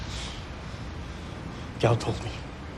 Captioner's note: breathing heavily